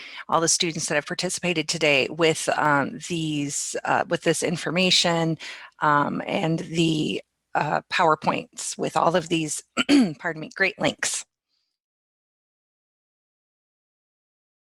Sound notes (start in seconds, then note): 9.8 clears throat